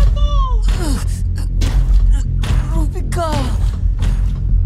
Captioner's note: groans weakly